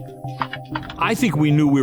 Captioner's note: keys typing